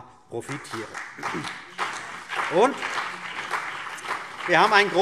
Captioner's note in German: Beifall CDU und BÜNDNIS 90/DIE GRÜNEN